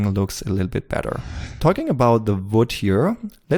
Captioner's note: whoosh